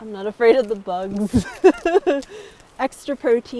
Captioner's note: laughs